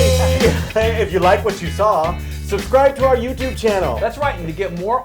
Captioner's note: laugh